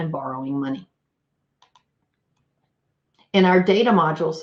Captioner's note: computer mouse clicks